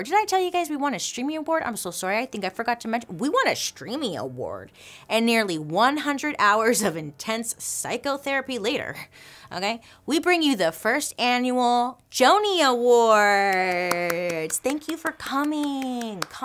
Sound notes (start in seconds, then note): 13.4 hand claps